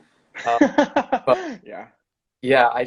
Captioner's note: laughing